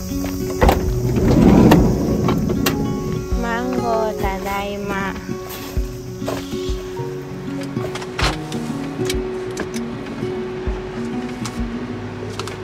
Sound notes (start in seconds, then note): 3.2 car